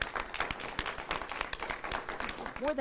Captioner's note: applause